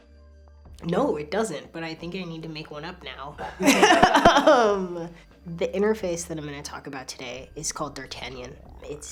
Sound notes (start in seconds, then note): 3.4 laughter